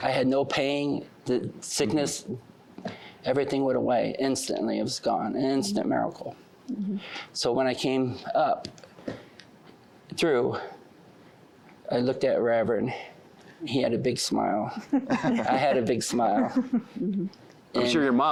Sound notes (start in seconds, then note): 14.7 laughter